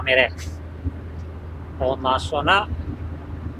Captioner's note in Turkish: none